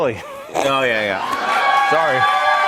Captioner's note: cheers and applause